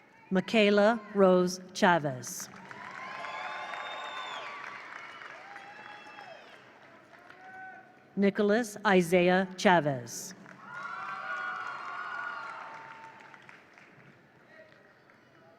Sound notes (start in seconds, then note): 2.4 attendees cheer; 2.5 attendees applaud; 10.4 attendees cheer; 10.4 attendees applaud